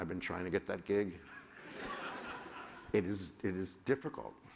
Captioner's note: laughter